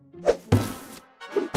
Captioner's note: box whooshes